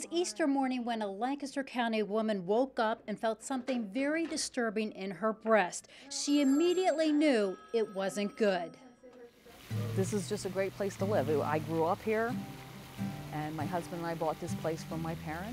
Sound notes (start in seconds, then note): 0.0 background talk; 6.4 phone ringing